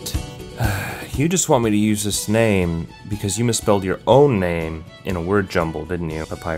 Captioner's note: sigh